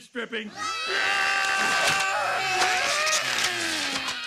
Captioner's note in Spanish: todos gritando